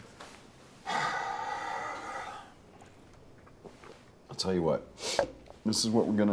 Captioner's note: sighs heavily